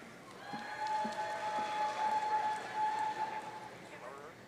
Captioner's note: audience cheering